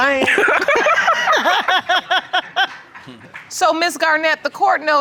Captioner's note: all laughing